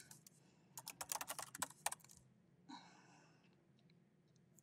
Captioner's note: keyboard clanking